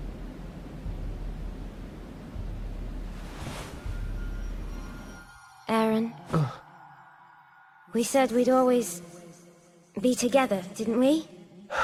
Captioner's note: in-game audio